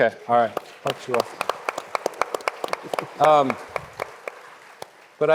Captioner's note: audience clapping